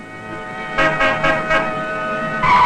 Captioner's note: car horn honking; brakes screeching